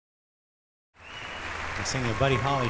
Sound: crowd cheering and clapping

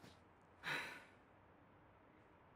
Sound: exhaling

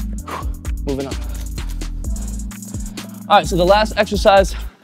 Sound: exhales sharply

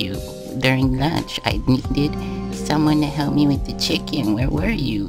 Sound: gasp

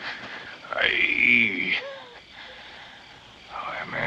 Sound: groans

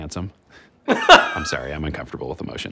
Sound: laughs

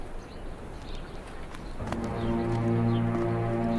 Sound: footsteps; dark orchestral music

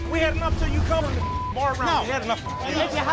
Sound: beep

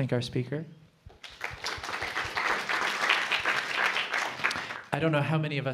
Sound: applause

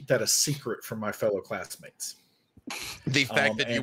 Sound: laughing

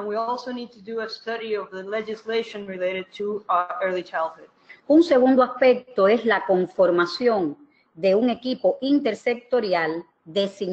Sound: speaking another language

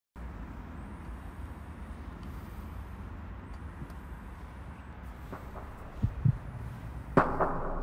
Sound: sound of traffic

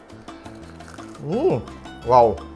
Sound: Crunch

